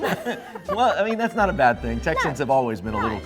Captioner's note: laughing